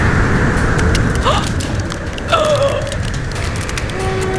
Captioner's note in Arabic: يلهث في الخوف